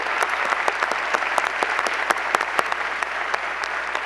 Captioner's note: applause